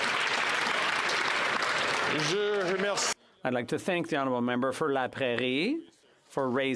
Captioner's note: some Applause